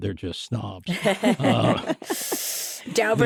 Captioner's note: laughter